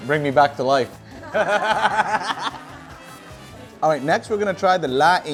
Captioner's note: all laugh